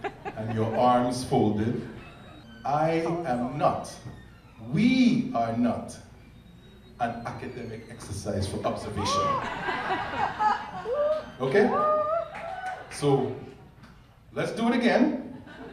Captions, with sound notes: and your arms folded. I am not, we are not an academic exercise for observation. (people laughing) Okay? So let's do it again.